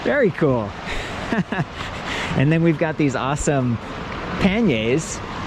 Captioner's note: laughs